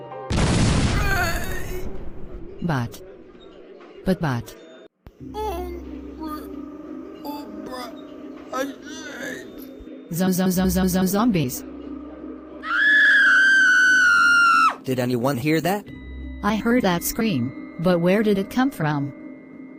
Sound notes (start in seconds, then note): 0.3 door bursts; 1.0 zombie speak; 5.1 zombie speak; 12.6 screaming